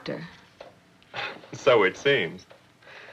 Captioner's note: chuckles